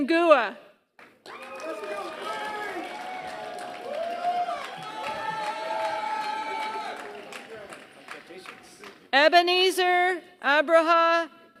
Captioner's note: applause